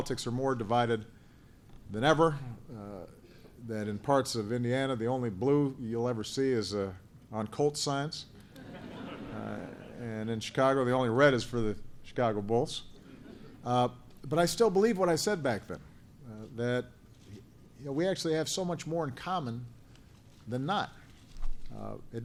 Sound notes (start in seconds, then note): 8.5 laughter